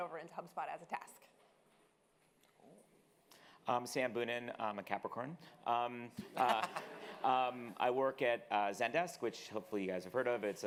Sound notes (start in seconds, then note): 6.3 audience laughing